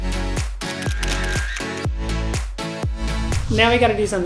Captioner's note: camera flashing; upbeat music